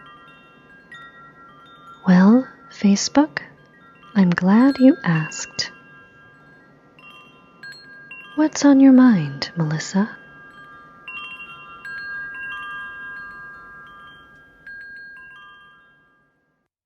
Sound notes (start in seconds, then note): 11.7 fading chimes